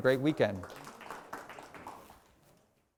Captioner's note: applause